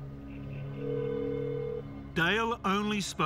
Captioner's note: phone rings